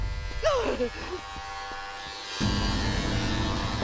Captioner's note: gasps